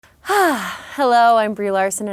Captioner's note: sighing